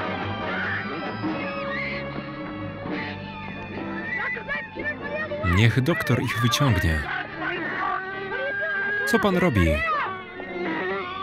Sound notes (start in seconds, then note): 6.5 speaking in foreign language